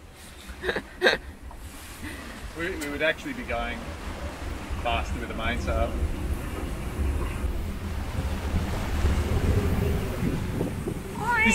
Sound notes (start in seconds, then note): 0.2 laughs; 6.5 wind blows